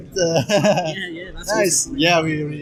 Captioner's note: laugh